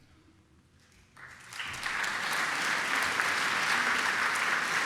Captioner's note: applause